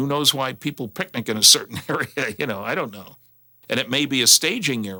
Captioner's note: chuckles